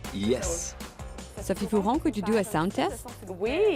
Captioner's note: French